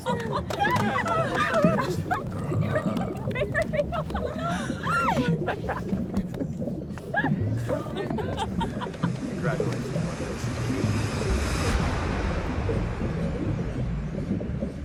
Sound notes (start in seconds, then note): 0.1 water bubbles; 9.1 waves splash